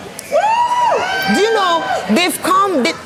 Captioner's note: cheers